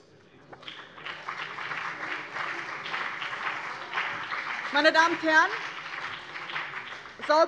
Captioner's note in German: Beifall BÜNDNIS 90/DIE GRÜNEN und CDU